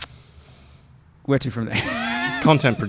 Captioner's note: laughs